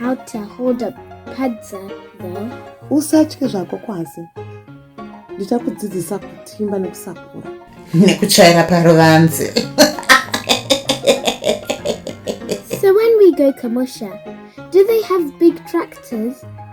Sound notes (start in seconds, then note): 12.0 laughs